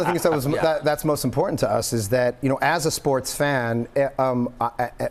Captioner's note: laughter